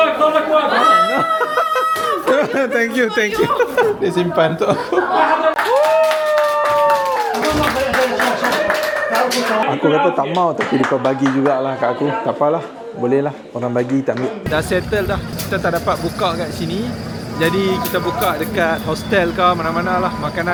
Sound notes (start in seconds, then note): 5.1 cheering; 5.4 laugh; 5.5 claps